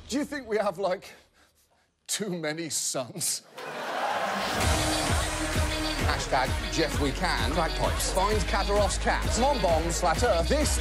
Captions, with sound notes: "Do you think we have, like, too many sons?" (AUDIENCE LAUGHS) Hashtag "Jeff We Can"-- "Crack Pipes"-- "Find Kadyrov's Cat"-- "Mom Bombs"-- "Flat Earth"--